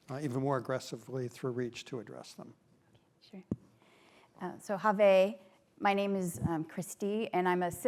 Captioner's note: non-english